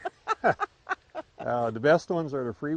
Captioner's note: laughing